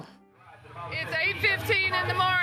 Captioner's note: crowd noise